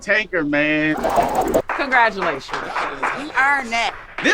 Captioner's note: group applauding